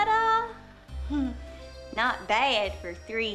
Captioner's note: giggles